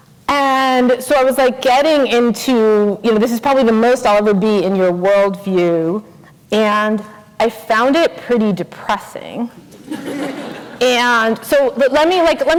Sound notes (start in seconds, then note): 9.6 laughter